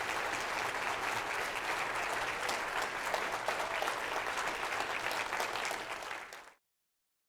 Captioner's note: applause